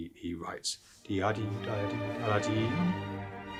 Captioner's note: humming; dramatic orchestra music